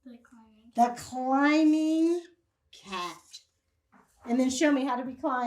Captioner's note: marker squeaks